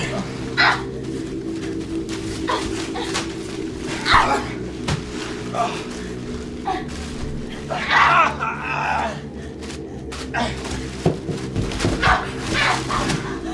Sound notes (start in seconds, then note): 0.6 Ashley screams; 4.0 thud; 7.8 Ashley screams; 7.8 Samuel grunts